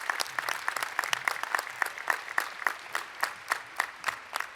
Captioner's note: applause